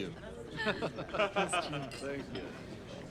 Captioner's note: both laugh